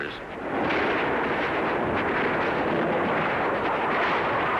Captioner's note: guns firing